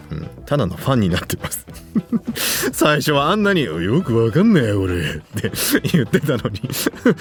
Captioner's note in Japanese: 笑い